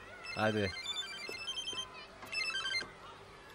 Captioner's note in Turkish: Telefon sesi